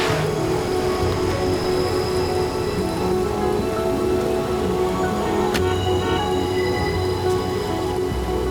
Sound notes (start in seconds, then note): 4.6 horns honking